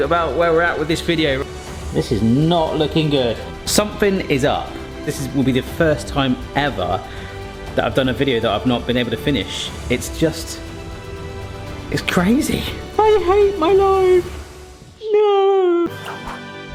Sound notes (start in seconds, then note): 15.0 wails